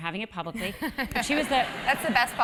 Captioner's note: laugh